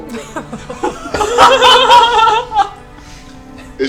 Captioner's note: all laugh